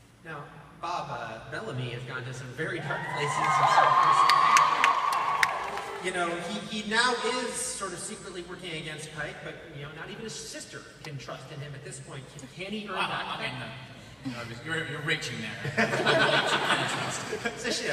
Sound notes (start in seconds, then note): 15.6 laughs